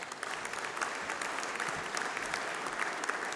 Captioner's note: applause